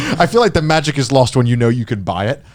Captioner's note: chuckling